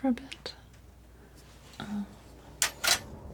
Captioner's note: scratching